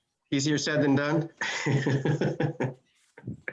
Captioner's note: laughs